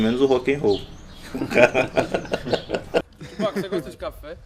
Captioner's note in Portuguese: risos